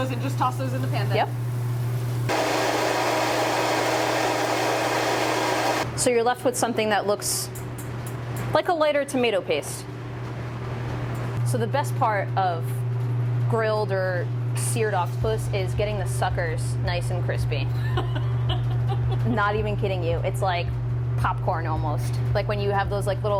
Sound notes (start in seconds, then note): 17.7 laughter